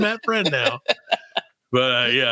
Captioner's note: laughing